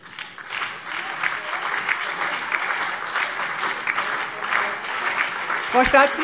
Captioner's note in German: Beifall CDU, BÜNDNIS 90/DIE GRÜNEN, SPD, Freie Demokraten und DIE LINKE